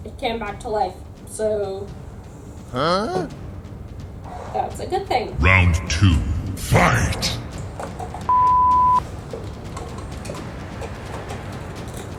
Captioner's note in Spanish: segunda ronda, lucha * voz de combate mortal